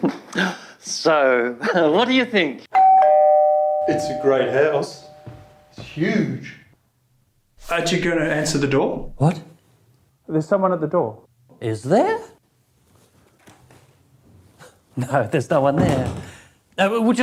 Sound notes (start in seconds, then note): 2.7 doorbell rings